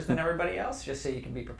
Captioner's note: laugh